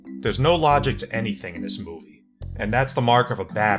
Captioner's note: none